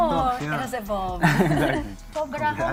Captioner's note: all chuckle